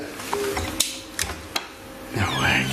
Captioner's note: whimper